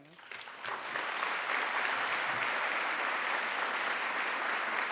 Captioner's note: applause